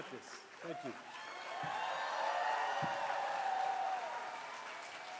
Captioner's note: cheers and applause